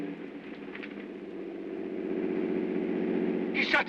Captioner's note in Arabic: هدير الطائرة